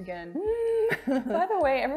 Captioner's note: nervously chuckling